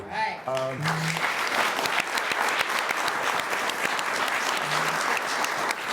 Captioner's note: audience applauding